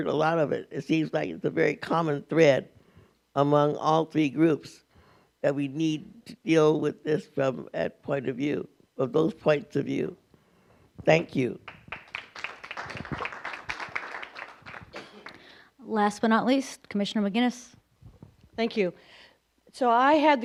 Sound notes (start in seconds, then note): 11.6 applause